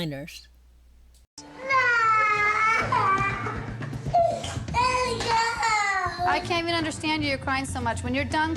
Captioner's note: child crying